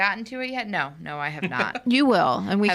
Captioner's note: laughing